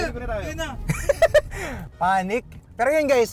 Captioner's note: laughs